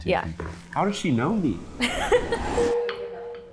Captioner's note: laughs